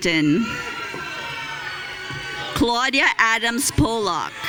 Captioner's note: audience cheering